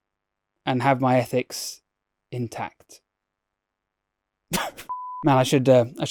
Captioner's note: chuckles